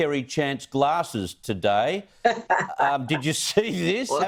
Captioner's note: laughter